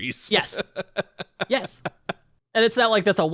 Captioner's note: laughs